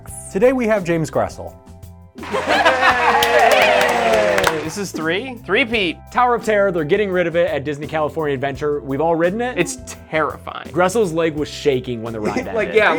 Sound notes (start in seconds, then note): 2.2 applause; 2.2 laugh